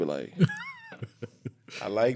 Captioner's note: laughing